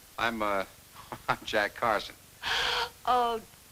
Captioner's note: laughs